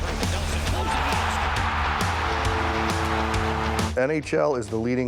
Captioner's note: cheers and applause